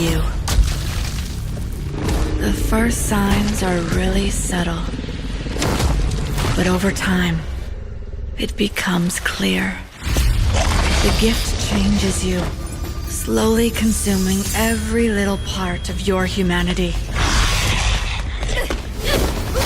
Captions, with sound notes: until someone comes to slay you. The first signs are really subtle. But over time, it becomes clear. The gift changes you, slowly consuming every little part of your humanity. [monstrous roar]